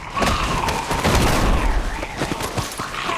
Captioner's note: snarls; thud